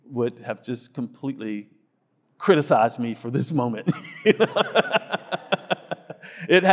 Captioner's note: laughs